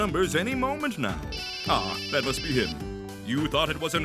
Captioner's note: cellphone ringing